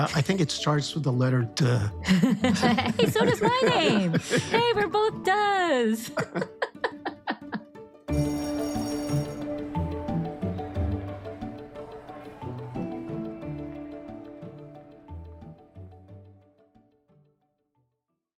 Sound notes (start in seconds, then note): 6.0 both laughing; 8.0 upbeat music